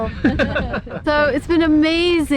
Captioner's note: laughing